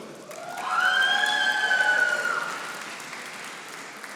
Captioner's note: audience applauding